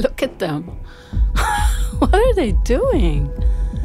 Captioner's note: laughs